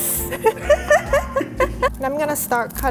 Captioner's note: laughter